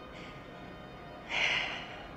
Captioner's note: sighs